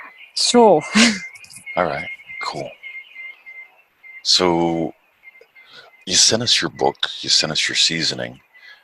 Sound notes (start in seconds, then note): 0.9 chuckles